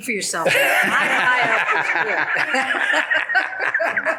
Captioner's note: everyone laughs